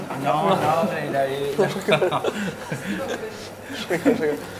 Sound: laughs

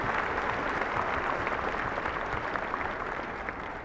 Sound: applauding

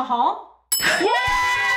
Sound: bell dings

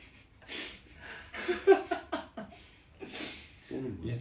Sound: laugh

